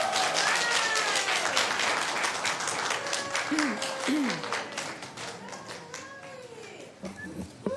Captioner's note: cheers and applause